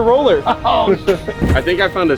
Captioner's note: chuckles; laughs